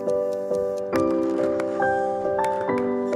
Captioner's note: ticking; tapping